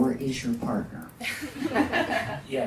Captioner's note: audience laughs